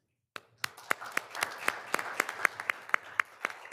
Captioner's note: all applauding